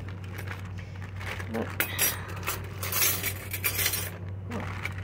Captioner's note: sound of flatware clanking